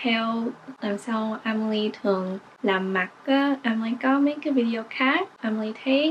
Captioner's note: in English